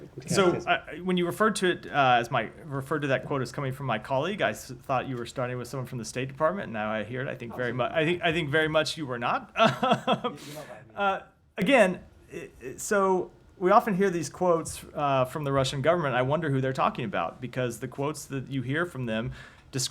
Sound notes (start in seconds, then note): 9.5 laughter